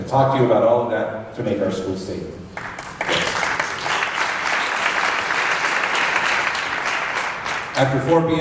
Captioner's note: applause